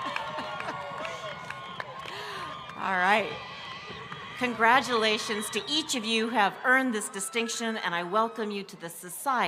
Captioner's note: laughs